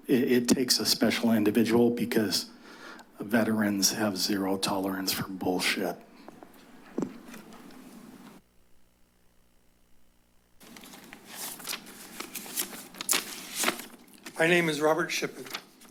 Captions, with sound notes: it takes a special individual because veterans have zero tolerance for bullshit. [pause] [paper rustles] - My name is Robert Shippen.